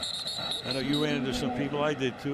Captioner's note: whistle blows